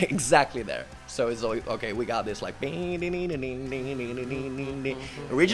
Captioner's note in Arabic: يدندن